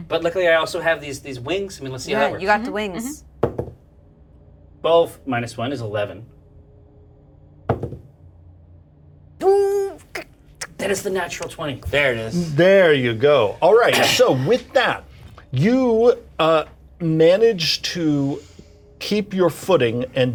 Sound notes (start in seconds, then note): 7.7 die thud